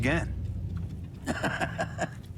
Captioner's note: laughs